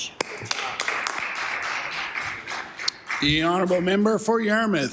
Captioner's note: some Applause